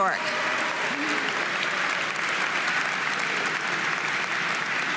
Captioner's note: audience applauding